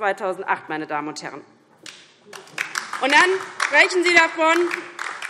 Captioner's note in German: Beifall DIE LINKE